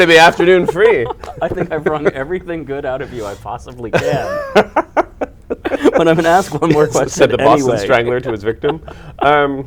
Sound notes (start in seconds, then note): 3.9 laughter